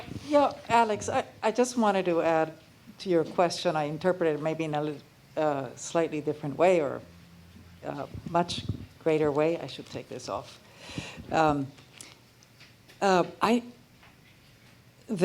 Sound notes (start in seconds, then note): none